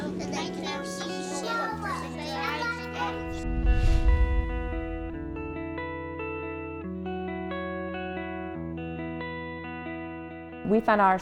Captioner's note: children talking